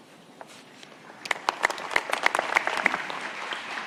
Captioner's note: applause